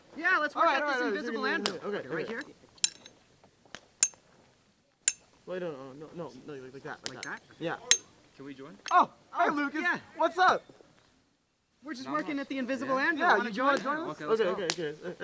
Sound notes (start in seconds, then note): 5.5 chatter